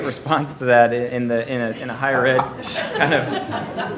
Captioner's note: laughter